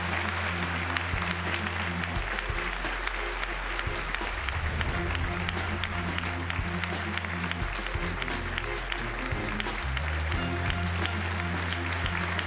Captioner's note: applause